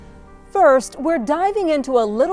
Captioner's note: air whooshing